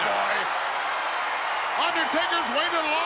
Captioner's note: crowd cheers